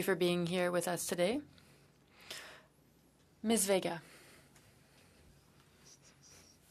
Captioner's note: speaking French